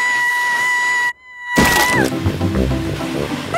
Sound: screaming

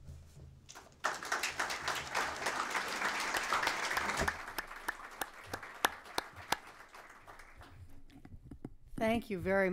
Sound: applause

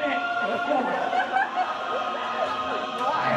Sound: laughter

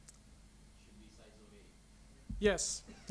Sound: voiceover

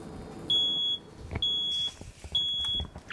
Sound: smoke detector beeping

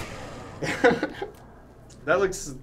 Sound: blades whir; laughing

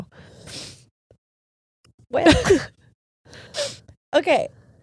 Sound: both sniffling

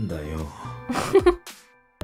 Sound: chuckles

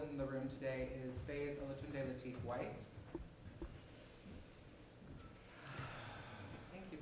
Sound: inhale, exhale

